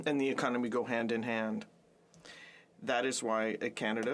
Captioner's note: speaking French